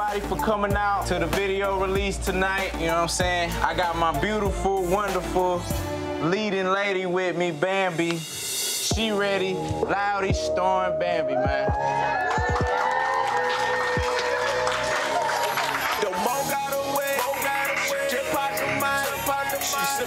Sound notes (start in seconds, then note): 11.4 crowd applauding